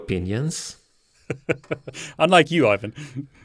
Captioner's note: laughs